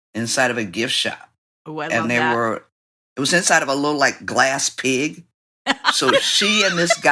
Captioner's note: laughter